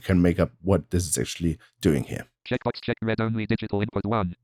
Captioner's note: automated voice